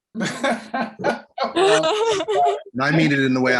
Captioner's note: laughter